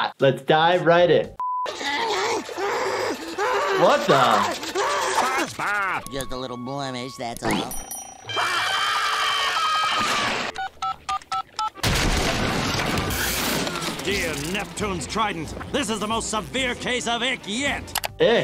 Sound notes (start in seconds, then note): 1.7 SpongeBob groaning; 8.3 Squidward screaming; 10.3 phone dialing